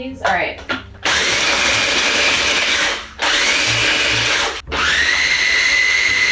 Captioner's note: food processor blending